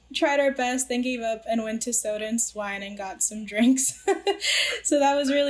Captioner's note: laughs